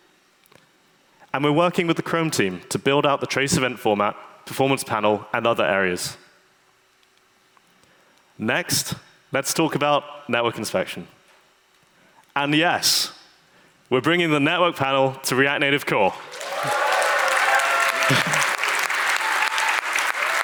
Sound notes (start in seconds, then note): 16.1 audience applauds